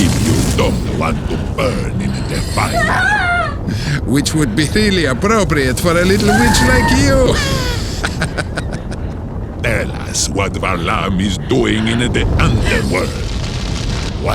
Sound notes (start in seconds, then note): 7.6 laughs